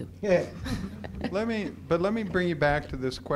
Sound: laughter

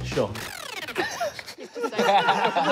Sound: laughter

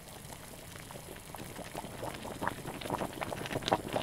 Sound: water boiling

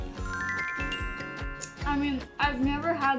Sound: gentle upbeat music; bells chime

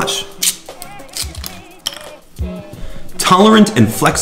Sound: cookie crunching

